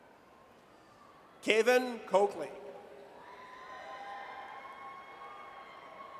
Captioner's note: audience cheers